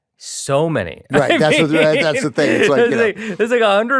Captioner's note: laughs